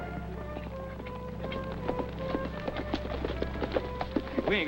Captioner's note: hooves clop